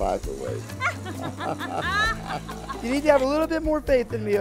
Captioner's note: laughing